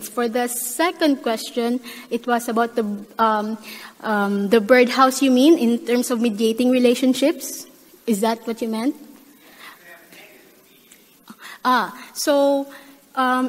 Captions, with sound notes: For the second question, it was about the birdhouse, you mean, in terms of mitigating relationships. Is that what you meant? - [Male Voice] (speaking quietly) - Ah. So,